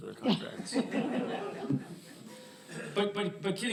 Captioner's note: laughter